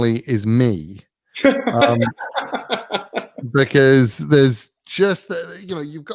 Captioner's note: laugh